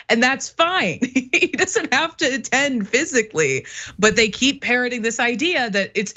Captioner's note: laugh